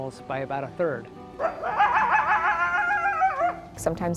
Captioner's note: coyote howling